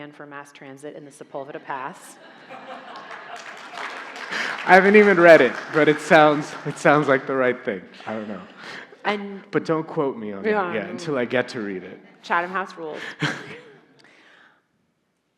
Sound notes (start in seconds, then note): 1.9 audience laughing; 2.4 audience applauding